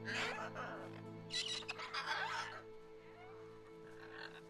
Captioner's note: parrot squawks